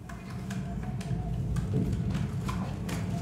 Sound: rumbling wind

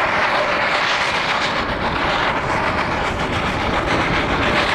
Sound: hard chugging from rotary

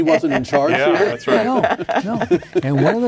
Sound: laughing

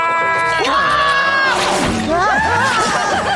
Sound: screaming; parents laughing

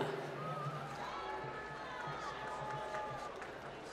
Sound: applause

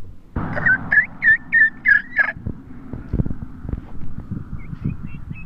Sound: making turkey noises; turkey chirping

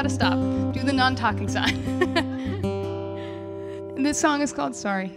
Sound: laughing

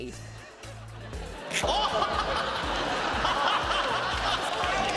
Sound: laughing

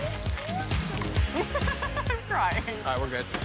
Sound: giggling

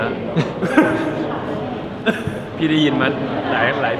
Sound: laughs

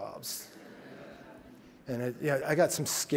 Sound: audience clamors

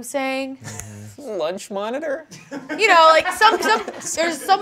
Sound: crewmember laughs

